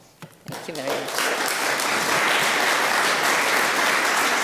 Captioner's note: applause